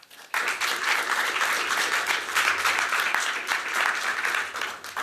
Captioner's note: applause